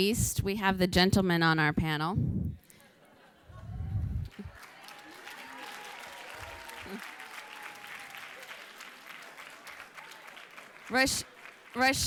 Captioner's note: applause